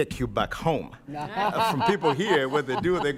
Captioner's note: and others laughing